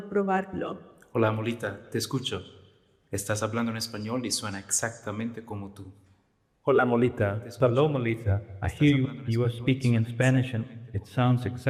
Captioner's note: speaking another language